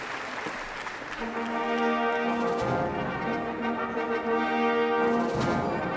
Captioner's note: applause